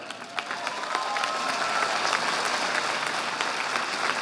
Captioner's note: audience applauding